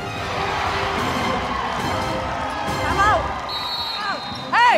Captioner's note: crowd roaring